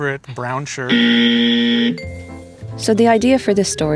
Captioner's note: wrong buzzer noise